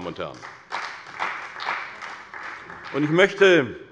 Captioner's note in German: Beifall bei der CDU